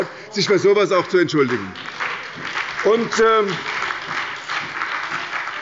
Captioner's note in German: Beifall bei der SPD und bei Abgeordneten der FDP